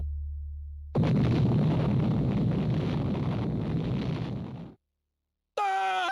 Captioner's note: explosion